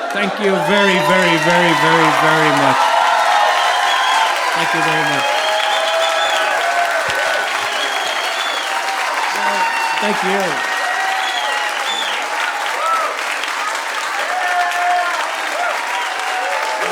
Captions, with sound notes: Thank you very, very, very, very much. (audience cheering) (audience applauding) Thank you. (audience cheering) (audience applauding)